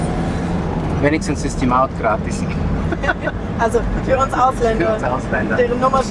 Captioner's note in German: Lachen